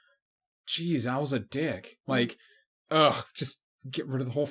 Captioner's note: disgusted grunt